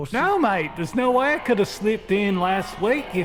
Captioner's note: voices sound alien